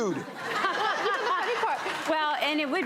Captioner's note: laughter